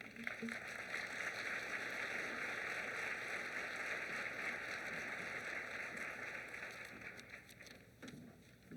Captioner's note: applause